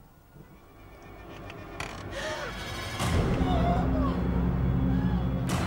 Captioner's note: soft ominous music; Caroline gasping; Caroline screaming